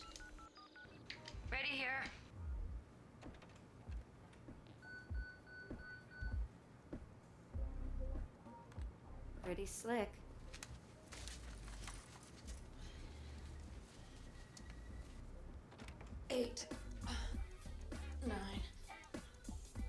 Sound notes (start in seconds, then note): 0.1 electronic beeping; 4.9 beeper beeps